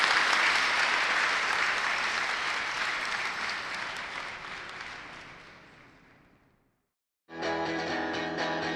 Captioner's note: crowd applauds